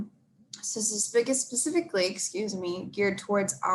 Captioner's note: stutters